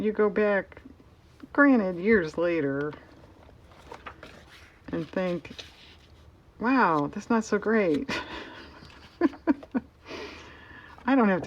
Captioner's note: laughs